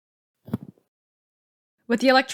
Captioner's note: thud